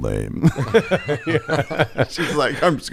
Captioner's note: everyone laughs